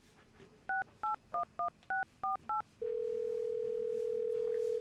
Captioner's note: phone dialing and ringing